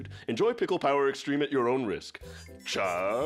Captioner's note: squeals